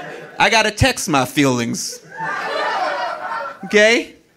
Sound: audience laughing

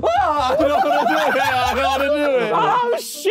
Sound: group laughing

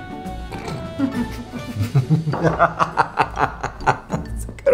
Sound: maniacal Laughter

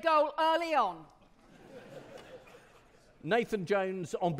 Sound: audience laughing

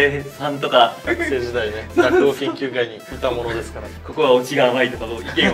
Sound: laughs

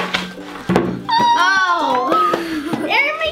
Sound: laughs

